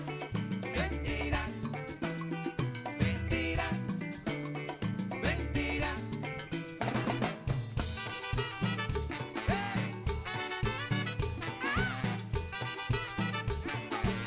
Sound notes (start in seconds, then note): 1.9 cheers and applause